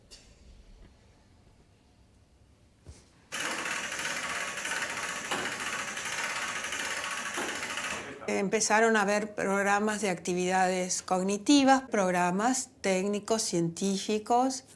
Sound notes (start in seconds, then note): 0.1 silence; 3.4 gear noise